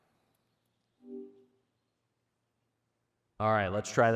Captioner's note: tone beeping